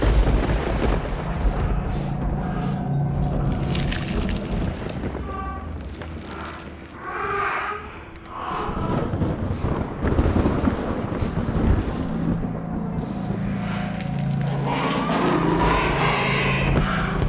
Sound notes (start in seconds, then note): 0.6 breathing sounds; 3.2 squelching; 8.4 babies cry; 8.6 thunder & Lightning; 15.1 monstrous roar